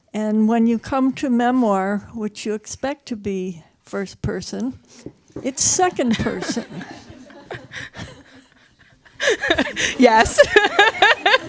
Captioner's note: laughs